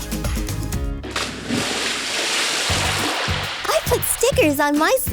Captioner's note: water splashes